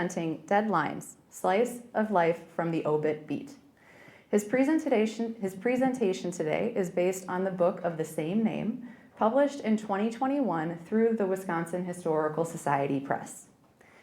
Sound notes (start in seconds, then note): none